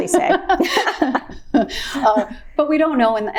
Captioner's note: both laughing